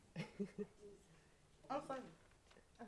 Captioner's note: laughing